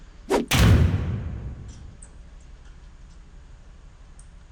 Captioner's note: clinking sound